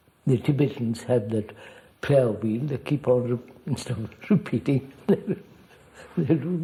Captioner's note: laughs